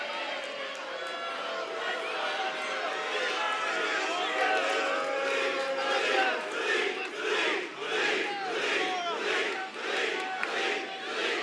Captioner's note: fans chanting